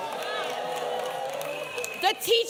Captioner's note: applause